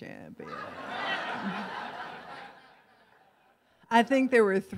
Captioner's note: laughs